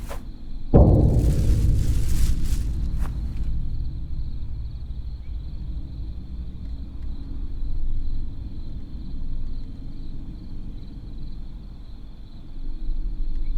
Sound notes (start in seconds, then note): 0.8 dramatic, foreboding music; 1.0 bag rustles; 5.4 crickets chirping; 5.4 quiet, menacing music